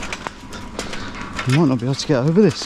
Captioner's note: none